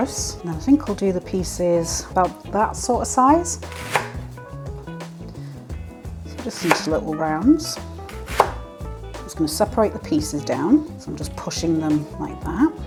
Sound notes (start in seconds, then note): 3.5 chop chop chop